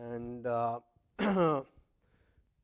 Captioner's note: cough